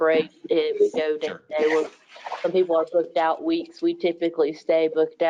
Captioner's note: speaking faintly